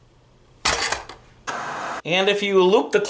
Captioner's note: static buzzing